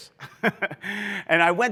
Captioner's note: laughs